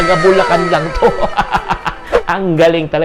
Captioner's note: laughs